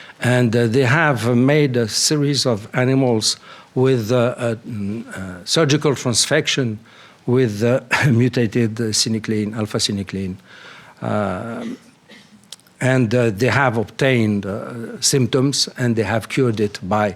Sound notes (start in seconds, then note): 7.4 clears throat